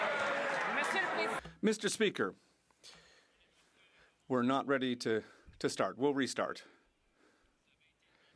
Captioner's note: some Applause